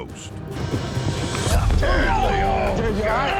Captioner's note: thud, groan